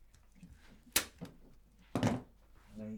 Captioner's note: popping